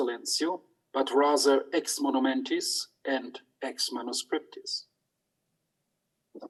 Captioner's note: speaks in foreign language